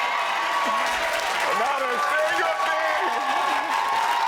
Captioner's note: audience applaud